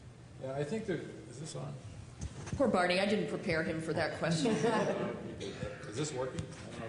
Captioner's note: laughter